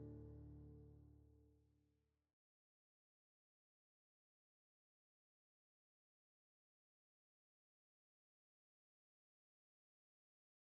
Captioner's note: no audio